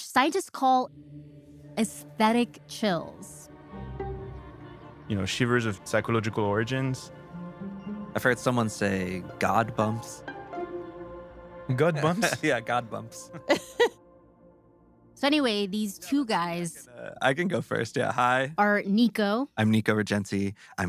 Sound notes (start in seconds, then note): 12.0 laughs